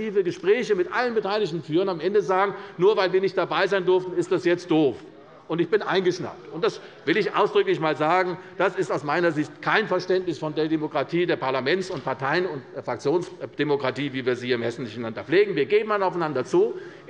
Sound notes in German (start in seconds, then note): none